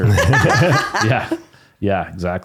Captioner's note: laughing